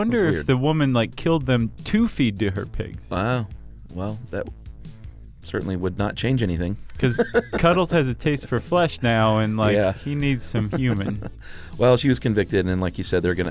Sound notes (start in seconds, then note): 6.8 laughs